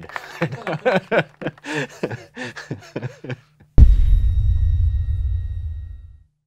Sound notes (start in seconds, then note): 0.0 laughs; 3.8 piercing thud